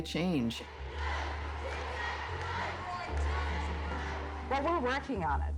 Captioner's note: chanting